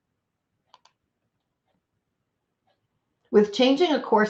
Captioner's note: computer mouse clicks